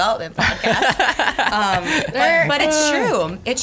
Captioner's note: laughs